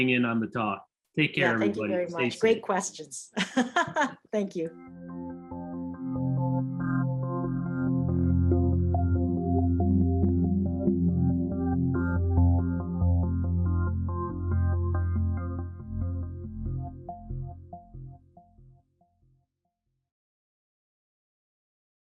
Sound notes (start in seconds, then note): 3.3 laughter